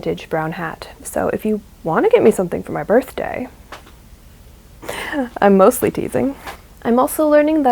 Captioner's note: laughs